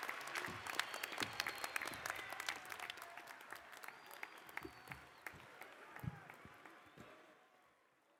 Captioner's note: applause